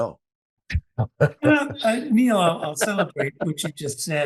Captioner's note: laugh